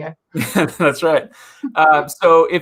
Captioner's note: laughs